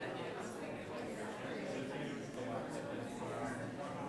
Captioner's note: audience chattering